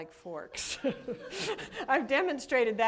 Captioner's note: laughter